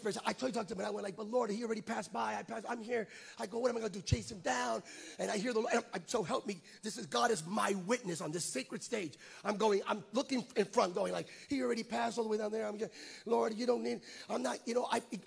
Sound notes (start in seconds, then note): 5.8 stutters